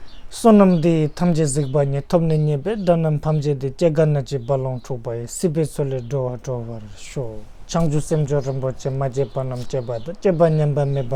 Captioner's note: tibetan